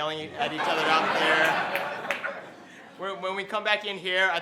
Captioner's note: laughing